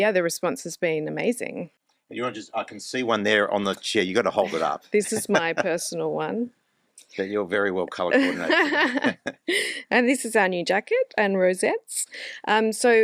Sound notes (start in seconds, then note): 4.9 laughs; 8.1 laughs